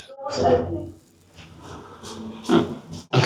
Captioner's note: doors Opening